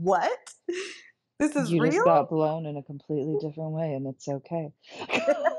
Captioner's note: laughing